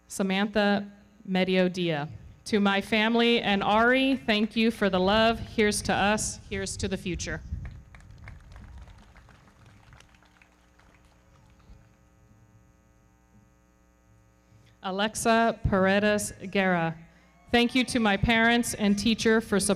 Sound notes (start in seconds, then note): 7.6 everybody clapping